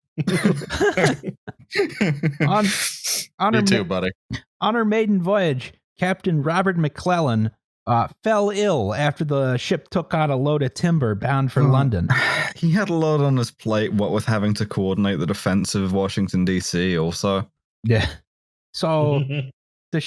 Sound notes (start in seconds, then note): 0.2 laughter; 12.1 sighs; 19.3 chuckles